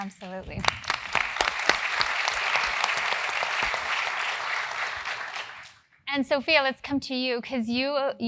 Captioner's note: applause